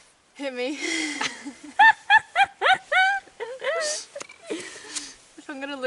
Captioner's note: hyena laugh in disbelief